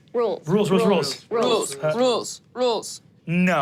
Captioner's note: chanting; snaps